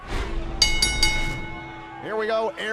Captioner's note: bell ringing